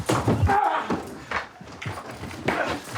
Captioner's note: grunting